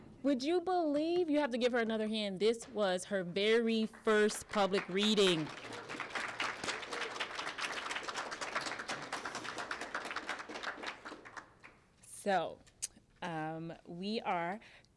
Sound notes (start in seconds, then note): 4.1 applause